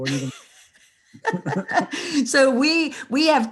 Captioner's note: both laughing